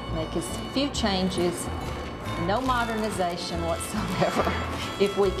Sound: laughs

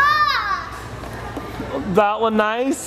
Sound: yells

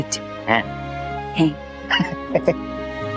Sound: laughing

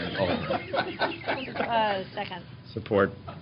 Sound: laughter

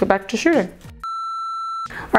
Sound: beep

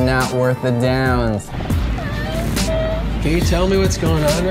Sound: crying

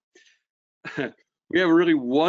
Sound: chuckles

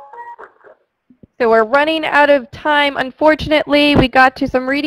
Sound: voiceover

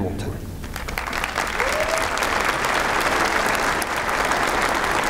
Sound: applause

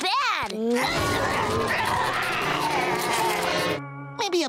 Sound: groaning

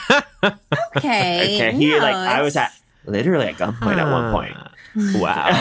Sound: laughs; stammering

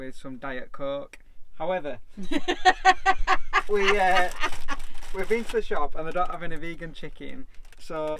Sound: laughing

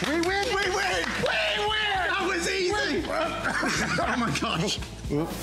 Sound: laughter

